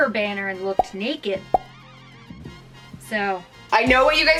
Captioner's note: pop sound